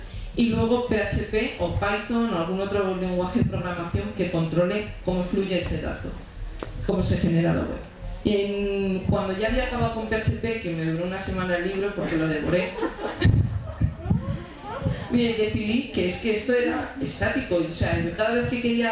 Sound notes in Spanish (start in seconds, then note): 12.0 Risas